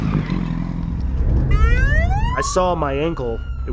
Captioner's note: sirens